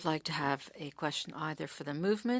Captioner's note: speaking French